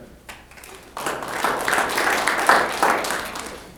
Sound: applause

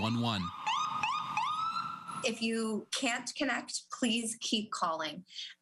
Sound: sirens

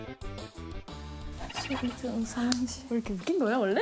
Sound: laughing

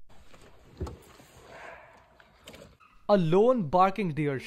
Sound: barking deer

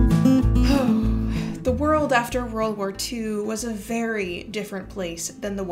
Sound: deep sigh

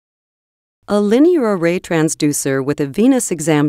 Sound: voiceover

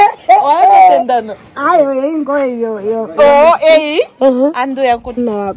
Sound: laughs

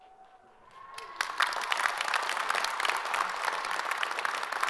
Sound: all applaud

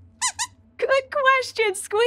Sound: squeaks squeaking

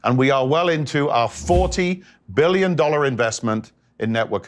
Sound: graphic whooshes

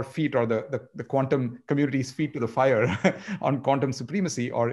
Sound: chuckles

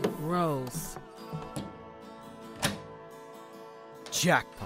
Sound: closet door opens

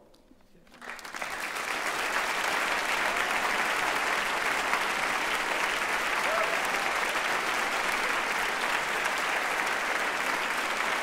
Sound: cheers and applause

